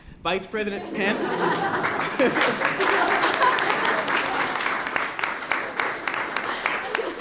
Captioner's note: laughter and applause